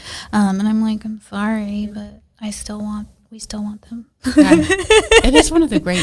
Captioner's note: laughs